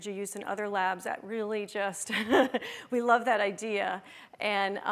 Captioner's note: laughs